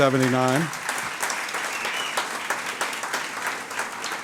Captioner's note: audience applauds